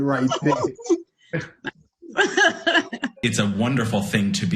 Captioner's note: laughter